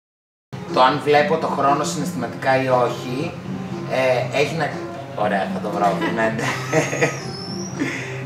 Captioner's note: laughter